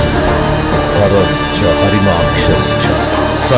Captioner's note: chanting